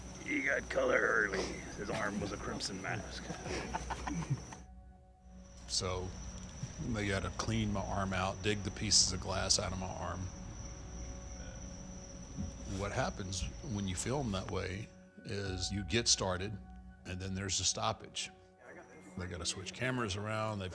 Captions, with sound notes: You got color early. His arm was a crimson mask. (man laughing) So they gotta clean my arm out, dig the pieces of glass outta my arm. What happens when you film that way is you get started and then there's the stoppage. They gotta switch cameras around,